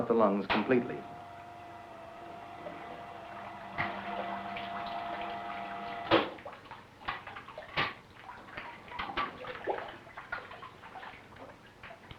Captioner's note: machine sound and water dripping